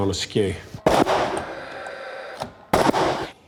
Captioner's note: nail gun sound